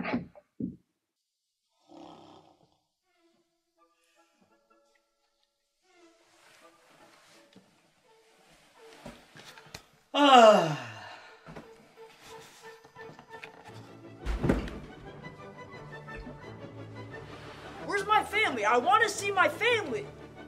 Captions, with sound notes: O'Nelly [yawns] MAYOR Where's my family? I want to see my family!